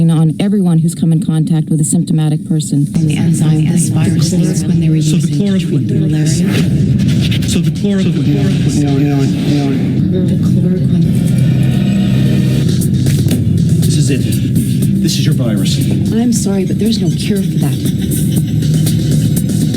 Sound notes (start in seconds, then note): 4.2 audio echoing and distorting; 6.6 audio distorting and warping; 9.7 audio warping; 12.3 dramatic music